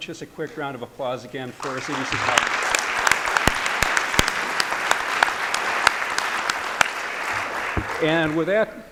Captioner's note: applause